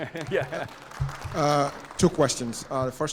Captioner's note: chuckles; audience applauding